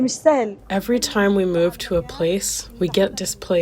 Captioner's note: through translator